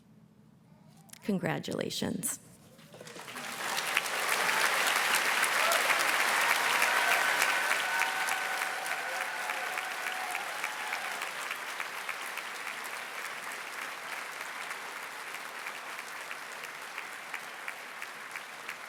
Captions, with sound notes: Congratulations. (audience cheers and claps)